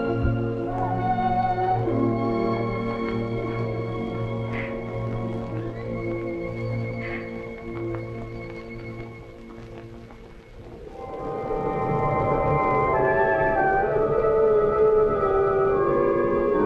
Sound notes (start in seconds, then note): 0.2 melancholic music; 4.2 sobs - melancholic music; 10.8 suspenseful music